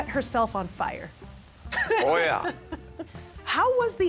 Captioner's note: laughing